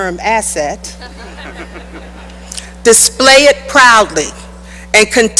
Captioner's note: laughter